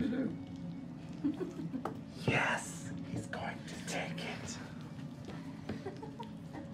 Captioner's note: whispering dramatically